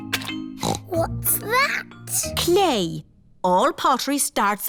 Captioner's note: snorts